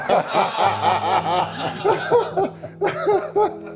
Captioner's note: laughter